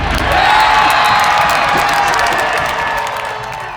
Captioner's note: crowd cheering